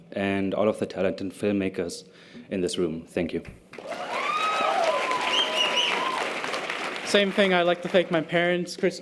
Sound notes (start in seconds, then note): 3.7 audience applause and cheers